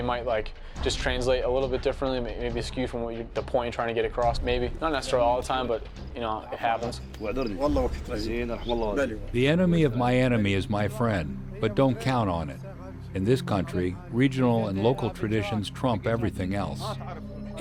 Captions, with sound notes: translate a little bit differently maybe skewed from the point you're trying to get across. Maybe. Not all the time but you know it happens. [Iraqis speaking Arabic] - [Voiceover] The enemy of my enemy is my friend but don't count on it. In this country, regional and local traditions trump everything else.